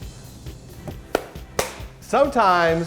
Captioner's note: claps